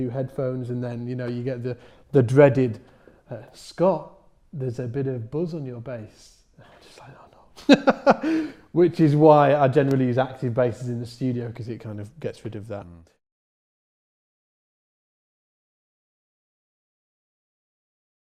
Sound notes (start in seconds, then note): 7.6 laughs; 8.1 whispers